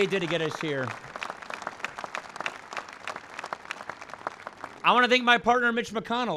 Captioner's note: applause